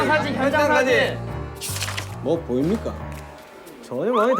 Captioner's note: mysterious footstep